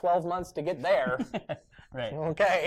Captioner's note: laughter